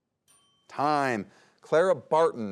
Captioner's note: bell dings